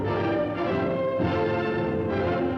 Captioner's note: none